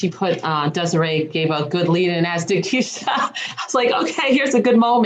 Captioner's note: laughs